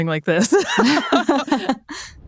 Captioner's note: both laughing